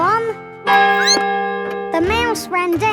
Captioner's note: squeaks; clock chimes